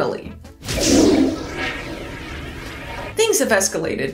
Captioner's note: flush noise